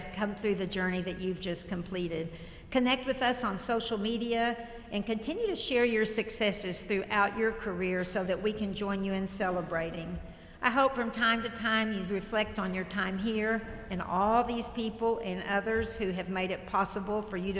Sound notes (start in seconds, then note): none